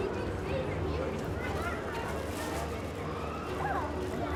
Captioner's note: people chattering